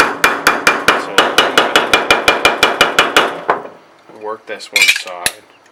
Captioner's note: hammering on metal drowns out speech